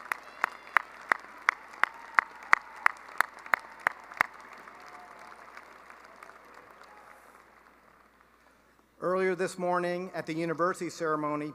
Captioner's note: applause; cheering and applause